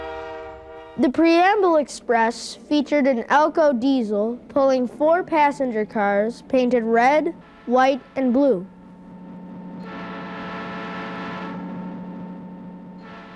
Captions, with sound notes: The Preamble Express featured an Alco diesel pulling four passenger cars painted red, white, and blue. (horm blowing)